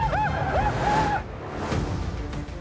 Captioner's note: indians whoop